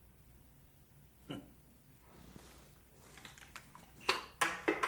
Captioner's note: Perez scoffs